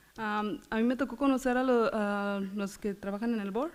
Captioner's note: foreign language